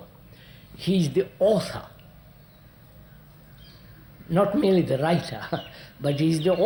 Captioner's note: laughs